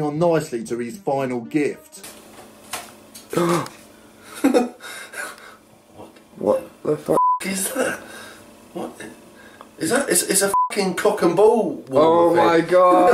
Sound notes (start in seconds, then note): 4.2 laughs; 4.8 camera operator gasps